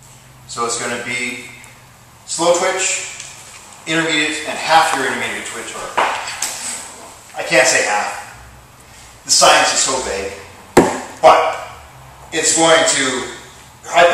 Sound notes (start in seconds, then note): 5.6 thigh slaps: left, then right; 10.8 thud!- source unknown